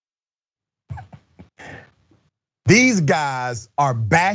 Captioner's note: laugh